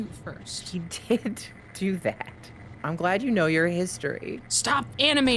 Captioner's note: laughs